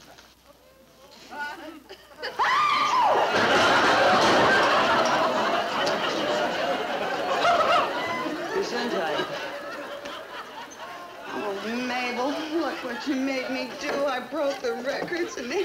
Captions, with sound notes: (Mabel sneezes) (audience laughing) - Gesundheit. Oh Mabel, look what you made me do. I broke the records.